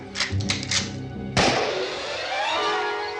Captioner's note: gunshot